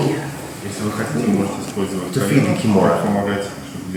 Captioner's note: speaking in a foreign language